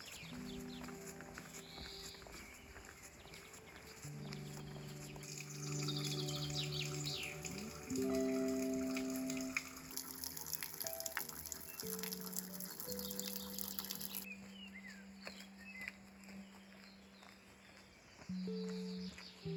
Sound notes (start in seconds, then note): 0.0 gentle music; 0.8 speaking foreign language; 16.8 gentle music